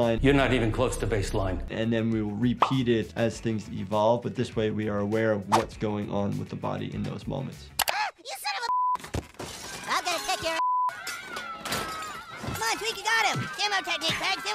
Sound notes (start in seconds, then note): 8.7 beep; 9.1 children cheering; 9.1 monitors clattering; 10.6 beep; 10.8 children cheering; 11.0 objects clattering